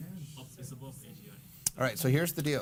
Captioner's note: audience mumbling